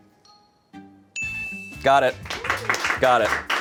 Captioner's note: bell chimes